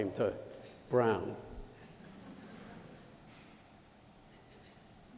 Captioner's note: laughter